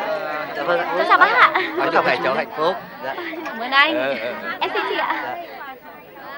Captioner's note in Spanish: gente hablando ruidosamente